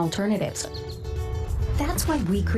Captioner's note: birds chirping